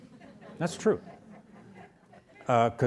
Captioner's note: audience laughs